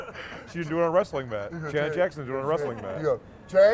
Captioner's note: laughing